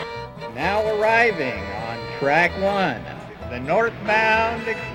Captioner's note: voiceover